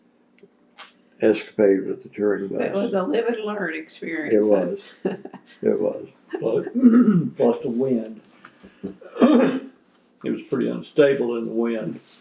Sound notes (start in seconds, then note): 4.2 laughs